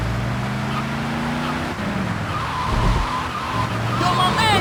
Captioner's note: car horn